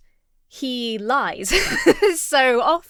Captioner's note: laughs